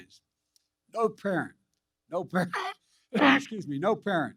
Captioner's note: coughs